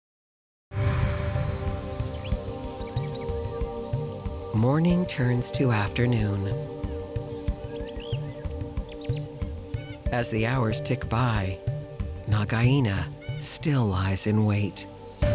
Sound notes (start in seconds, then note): 0.8 birds chirping; 0.8 light dramatic music